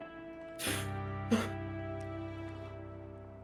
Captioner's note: gasping, nervous